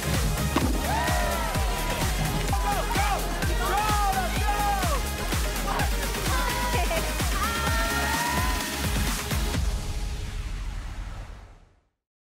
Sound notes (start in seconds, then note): 0.6 cheering; 1.8 yelling